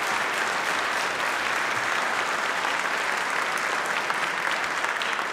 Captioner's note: applause